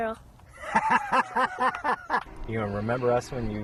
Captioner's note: laughs